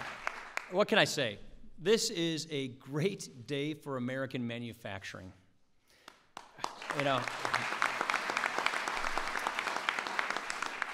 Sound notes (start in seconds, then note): 6.0 applause